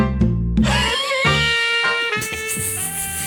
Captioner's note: loud coughing